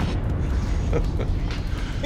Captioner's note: chuckling